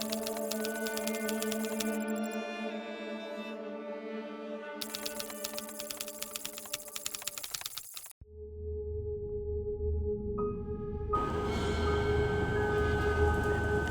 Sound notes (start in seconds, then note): 0.0 keyboard clacking; 2.6 pensive music continues; 4.8 keyboard clacking; 8.3 ominous music